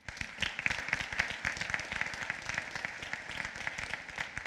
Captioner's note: applause